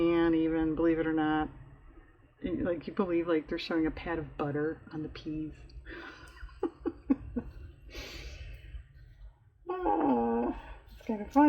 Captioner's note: laughs